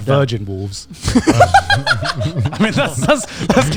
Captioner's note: all laughing loudly